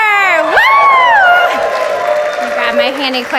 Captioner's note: audience applauds